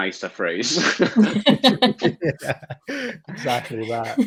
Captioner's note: all laugh